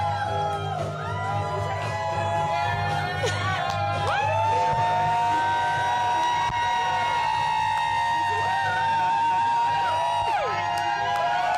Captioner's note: cheers and applause